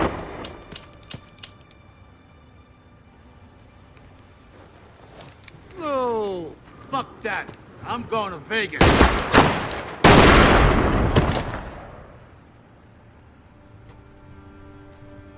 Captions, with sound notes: (gun clicking) Lou! - Fuck that, I'm going to Vegas! (gun firing)